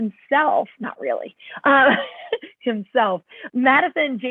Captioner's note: laughter